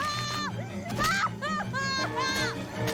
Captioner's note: screaming